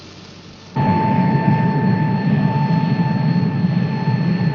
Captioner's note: vehicle whirring